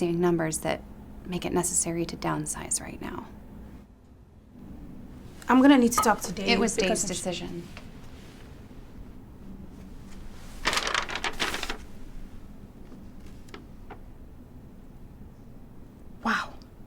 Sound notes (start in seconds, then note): 9.7 papers rustling